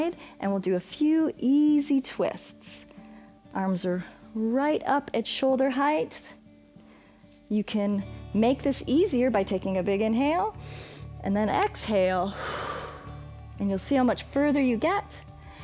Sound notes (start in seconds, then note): 10.6 inhales; 12.3 exhales